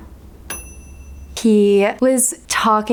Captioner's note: bell dings